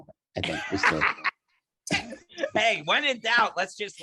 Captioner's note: laughing